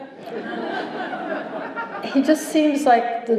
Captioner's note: laughter